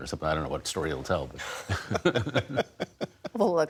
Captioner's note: laughter